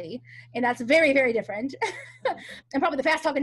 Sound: laughs

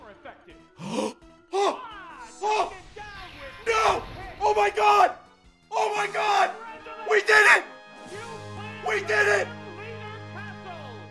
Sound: gasps

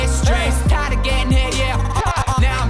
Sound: none

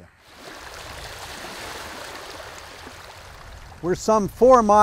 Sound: water lapping

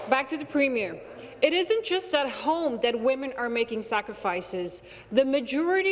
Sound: applause

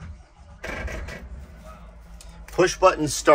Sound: engine puttering

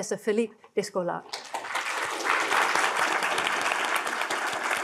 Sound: crowd clapping

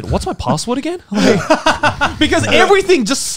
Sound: chuckling

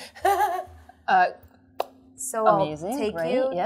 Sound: chuckles

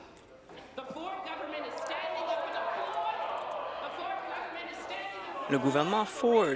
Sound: applause

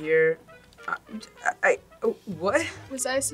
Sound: stammering

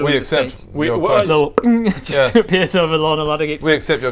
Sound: ping!

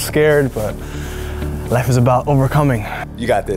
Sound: sighs

